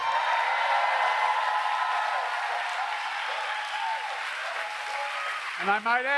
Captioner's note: applause